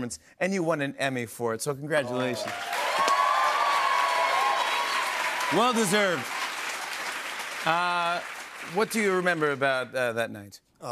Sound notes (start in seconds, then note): 2.0 cheers and applause